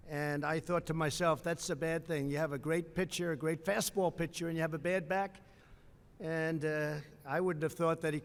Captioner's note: none